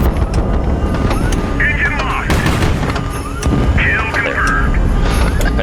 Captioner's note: beeping intensifies